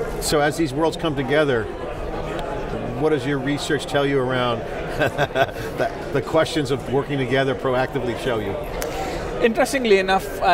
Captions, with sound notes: So as these worlds come together, what does your research tell you around (chuckles) the questions of working together, proactively, show you? >> Interestingly, enough.